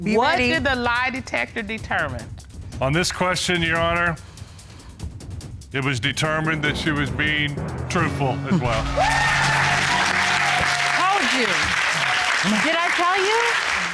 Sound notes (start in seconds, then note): 8.6 cheers and applause